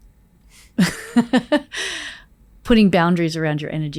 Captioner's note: Layne laughs